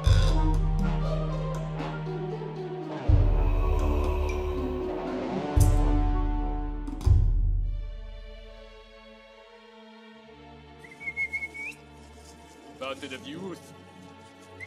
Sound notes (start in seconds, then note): 10.8 whistles; 14.5 whistles